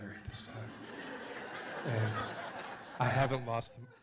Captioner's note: audience laughs